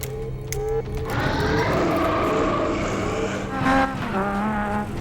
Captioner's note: vampire growls